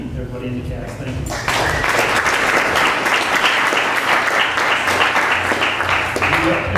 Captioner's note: applause